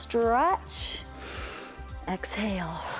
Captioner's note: inhales; exhales